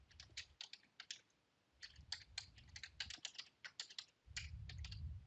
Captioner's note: keyboard clacking continues